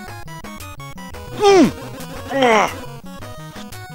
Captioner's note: angry screams